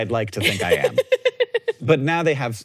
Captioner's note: laughs